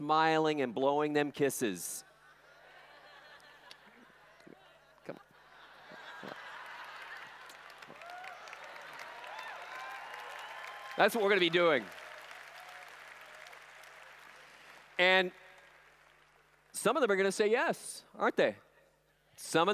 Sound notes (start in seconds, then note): 6.6 laughter; 7.7 applause; 12.3 applause